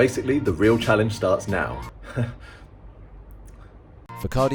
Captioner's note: nervous laugh, nervous gulp